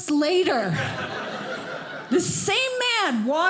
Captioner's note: audience laughing